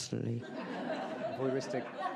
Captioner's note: audience laughs